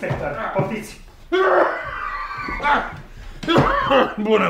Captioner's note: coughs